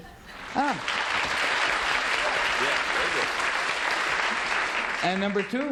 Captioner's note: applause